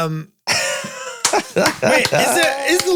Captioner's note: Glenn laughs